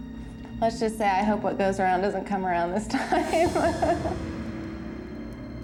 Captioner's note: laughing